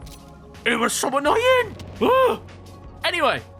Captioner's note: exclaims